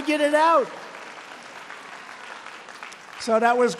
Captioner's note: applause